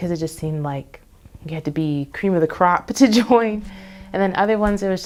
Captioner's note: laughs